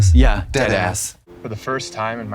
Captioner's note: blonde Women in unison